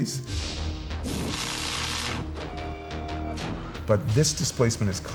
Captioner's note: welding torch crackling